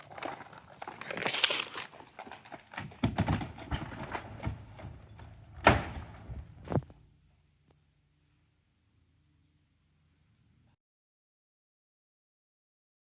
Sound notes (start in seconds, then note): 0.0 footsteps crunching; 5.7 door banging